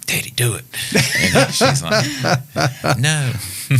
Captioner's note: laughing